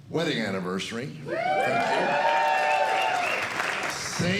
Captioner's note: crowd cheering